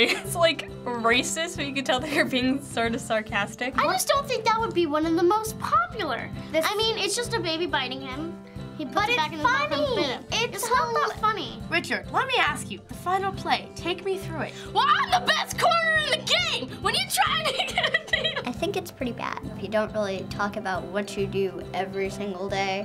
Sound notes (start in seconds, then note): 17.5 incoherent laughter and mumbling